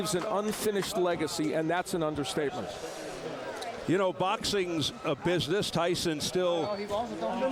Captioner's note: applause